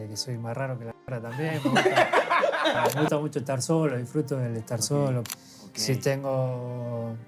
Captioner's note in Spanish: risas